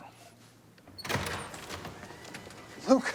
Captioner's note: door open close